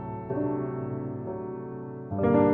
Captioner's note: none